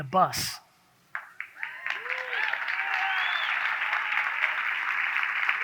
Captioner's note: audience cheers